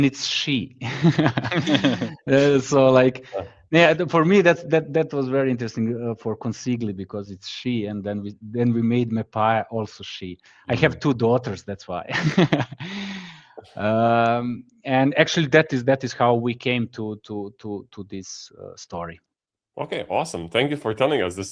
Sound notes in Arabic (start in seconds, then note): 0.9 ضحك; 12.2 ضحك; 12.8 يُشهق